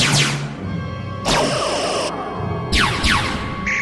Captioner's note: phaser fire